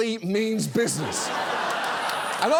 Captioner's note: studio audience laughs